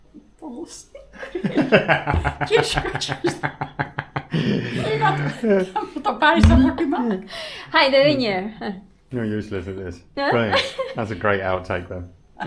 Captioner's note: laughter